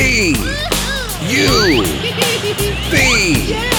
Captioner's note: giggling